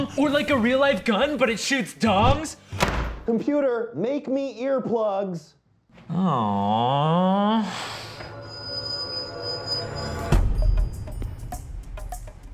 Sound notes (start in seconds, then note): 2.7 slamming; 7.8 suspenseful music playing